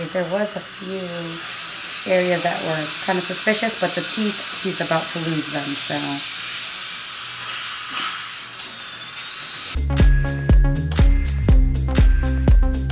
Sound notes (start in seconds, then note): 6.2 drill whirring; 9.7 upbeat music